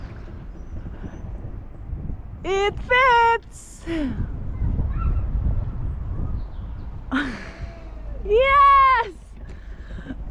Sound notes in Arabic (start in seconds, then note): 3.7 يضحك